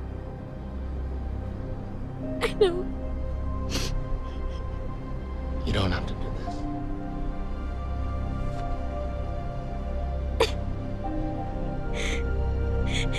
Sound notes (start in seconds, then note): 3.7 sniffles